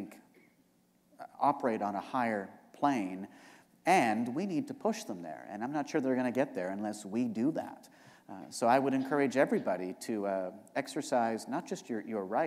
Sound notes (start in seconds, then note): none